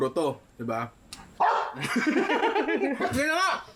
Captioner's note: barks